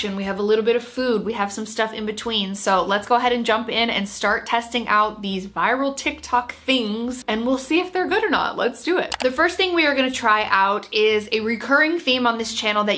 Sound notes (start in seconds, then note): 9.1 mouse clicks